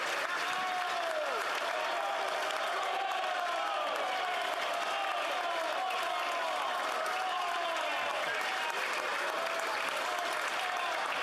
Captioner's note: applause